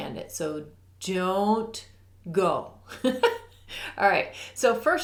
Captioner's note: giggles